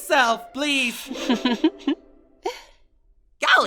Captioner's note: Candle laughs